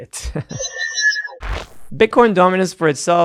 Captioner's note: electronic beeping